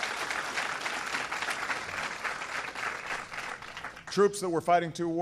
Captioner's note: applause